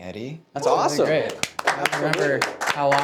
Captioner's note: audience applauding